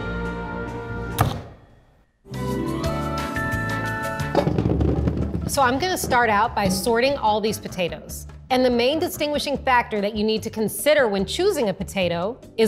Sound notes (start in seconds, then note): 1.2 knife chopping; 2.2 playful music; 4.4 potatoes rumbling